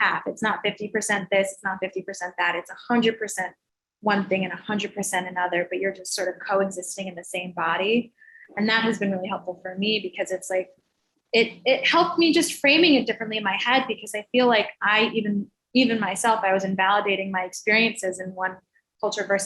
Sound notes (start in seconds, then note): none